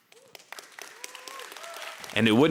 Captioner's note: audience clapping